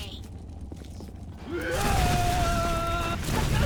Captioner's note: screaming